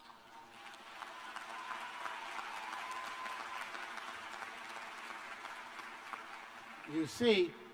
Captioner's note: applause